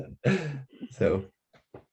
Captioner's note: laughs